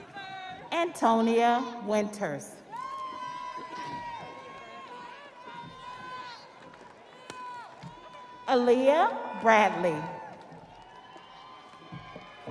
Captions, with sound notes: (audience applauding) (audience cheering) Antonio Winters. (audience applauding) (audience cheering) Aliyah Bradley.